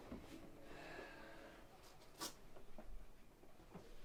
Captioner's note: Jim sighing